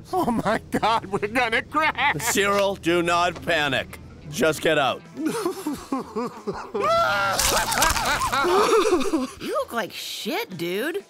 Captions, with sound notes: Oh, my God, we're going to crash. Cyril, do not panic. Just get out. [CRYING] [SOBBING] [CRYING] You look like shit, dude.